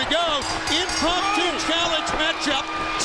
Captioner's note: bell rings